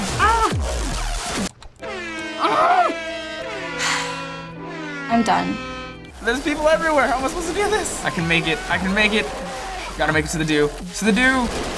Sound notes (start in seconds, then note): 1.0 blaring; 1.0 sad music; 4.2 sighs deeply